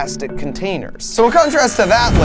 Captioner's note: door buzzing